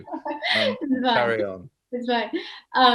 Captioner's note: chuckles